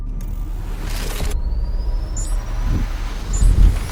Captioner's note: machine beeping; words swooshing